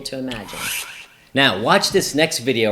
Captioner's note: swish